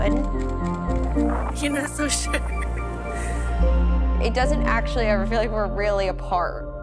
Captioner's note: laughing